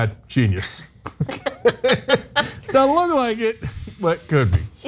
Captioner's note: laugh